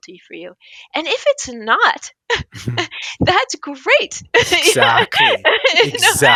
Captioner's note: laughs